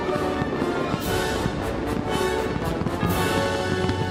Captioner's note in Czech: dramatická hudba; bouchání ohňostrojů